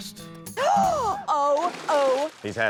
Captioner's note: gasps